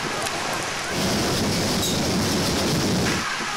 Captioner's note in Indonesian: suara gelombang tsunami